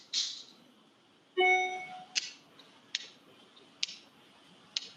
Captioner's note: phone dings